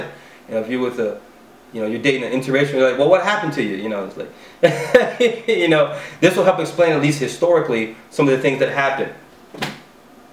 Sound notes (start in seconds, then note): 4.6 heheheh